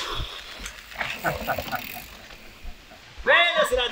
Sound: laughing

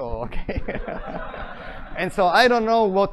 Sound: laughter

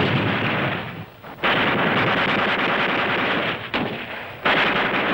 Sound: gunfire rattling

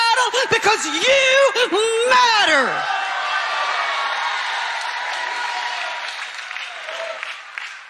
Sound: congregation cheering

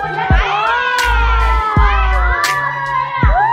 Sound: cheering

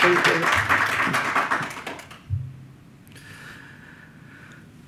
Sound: audience applauds

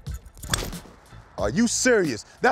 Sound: club hitting ball

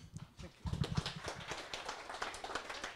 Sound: audience applause

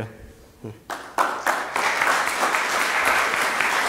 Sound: applause

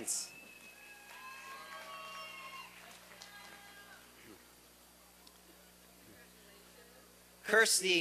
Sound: applause and cheering

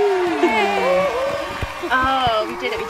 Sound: cheering

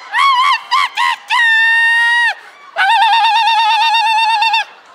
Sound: ululating

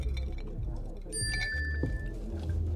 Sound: mobile notification

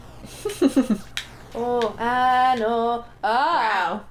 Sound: japanese

